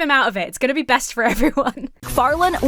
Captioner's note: laughs